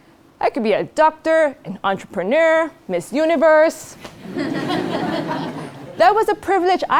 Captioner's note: laugh